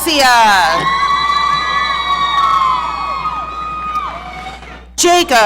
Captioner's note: audience cheering